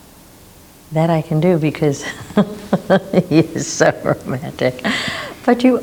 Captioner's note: laughs